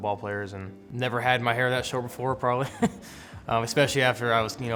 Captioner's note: chuckles